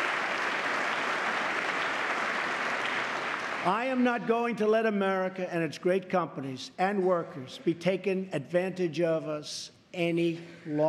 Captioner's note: applause